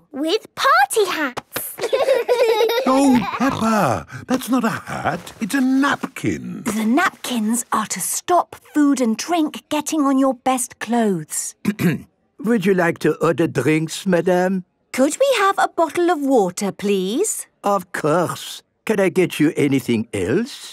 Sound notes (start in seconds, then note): 1.6 laughing; 11.6 clears throat